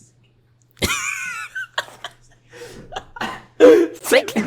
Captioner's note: wheezing into laughter